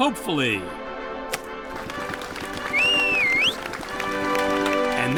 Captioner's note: clapping and cheering